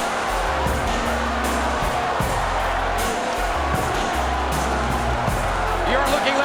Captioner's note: crowd boos; groovy music